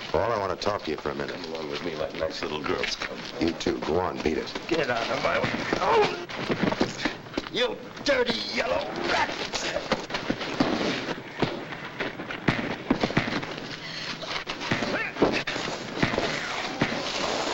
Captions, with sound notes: - Paul, I want to talk to you for a minute. - Come along with me like nice little girls. Come on. - You, too. Go on, beat it. - Get outta my-- (punch lands) You dirty yellow rat! (blows landing)